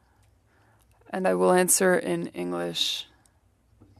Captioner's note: speaking French